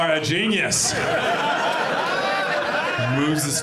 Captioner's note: audience laughs